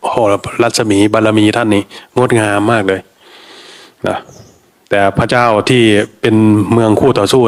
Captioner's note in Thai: เสียงสูดหายใจ